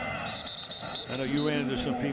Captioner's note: whistle blows